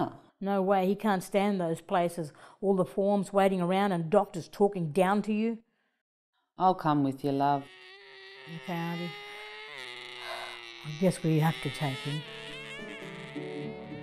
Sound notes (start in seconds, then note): 7.6 makes repetitive car noises; 11.1 sighs; 12.4 guitar music playing